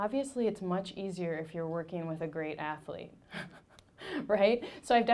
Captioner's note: laughing